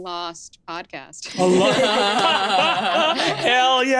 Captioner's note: laughs